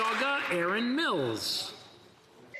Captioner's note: applause